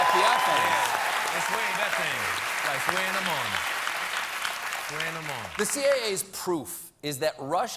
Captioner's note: cheers and applause